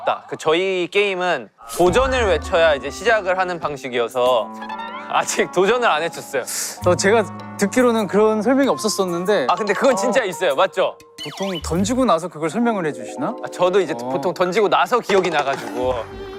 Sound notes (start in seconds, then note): 12.5 in a tone of disbelief